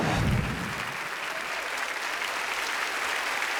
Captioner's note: audience applauds